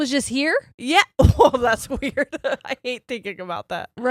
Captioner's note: giggles